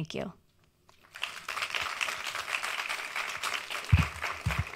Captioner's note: audience applauds